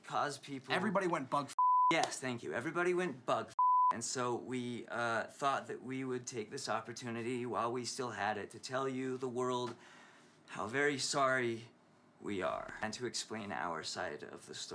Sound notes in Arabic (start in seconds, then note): none